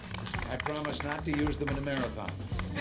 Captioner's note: laughter